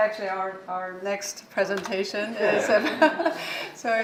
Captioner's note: laughs